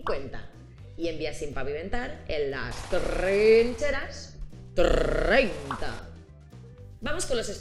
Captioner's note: sound submachine gun